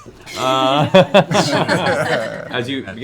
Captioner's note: laughter